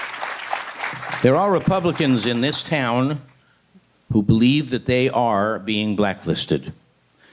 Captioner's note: applause